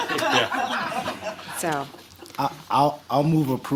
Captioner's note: laughter